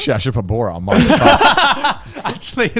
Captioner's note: everyone laughs